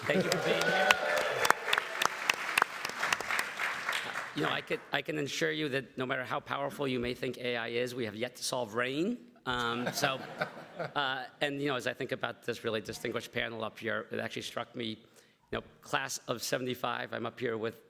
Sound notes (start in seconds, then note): 0.0 everybody applauds; 0.1 everybody laughs; 9.8 everybody laughs